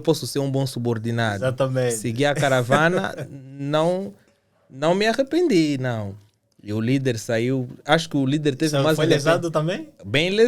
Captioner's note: laughs